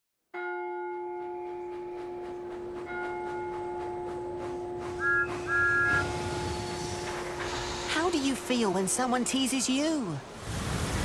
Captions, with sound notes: [CLOCK STRIKES] [THOMAS WHISTLES] "How do you feel when someone teases you?"